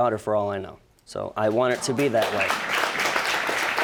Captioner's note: audience applauding